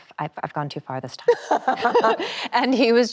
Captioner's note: both laugh cheerfully